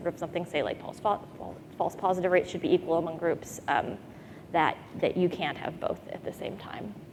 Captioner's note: none